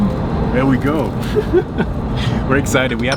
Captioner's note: giggles